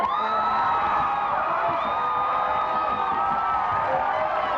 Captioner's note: audience applauds